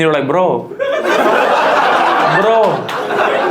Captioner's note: audience laughs